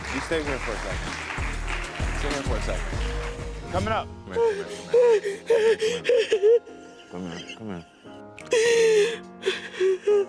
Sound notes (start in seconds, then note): 4.4 hysterically crying